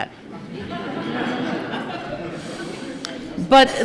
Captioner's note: laughter